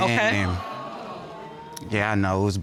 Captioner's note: audience exclaiming